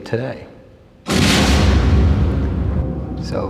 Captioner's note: explosion